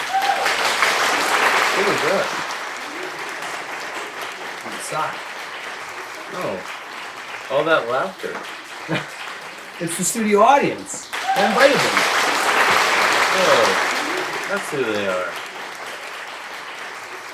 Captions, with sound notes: (audience applauds) - Who was that? - It was a sock. - No. All that laughter. - (laughs) It's the studio audience! I invited them. (audience cheers) - Oh! That's who they are.